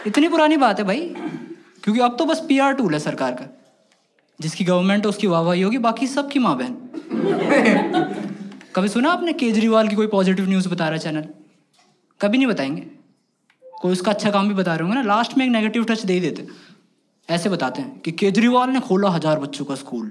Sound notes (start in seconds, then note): 7.0 laughs